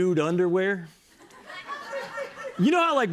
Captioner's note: laughter